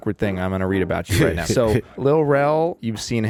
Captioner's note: laughs